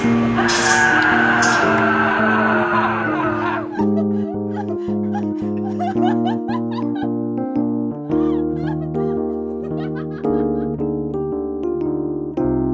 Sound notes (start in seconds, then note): 2.7 laughter